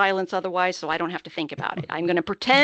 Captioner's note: chuckling